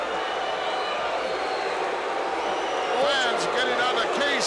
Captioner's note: audience shouting